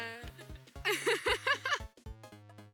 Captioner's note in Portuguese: ambas rindo muito